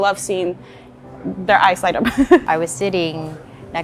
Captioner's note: giggles